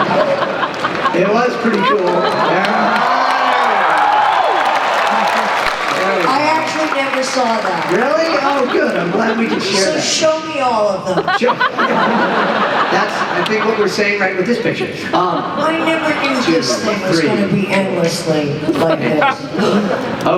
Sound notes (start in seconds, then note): 3.6 applause